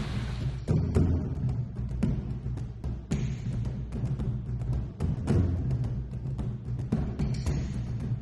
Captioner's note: imitates an old western style "spit", making a loud "spitting noise"